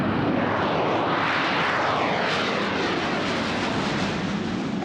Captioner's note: jet engine roaring